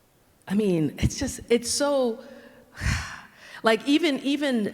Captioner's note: sighs